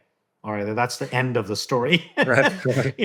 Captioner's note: laughs